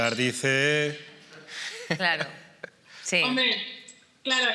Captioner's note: laughing